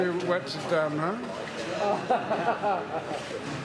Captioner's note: jackson laughs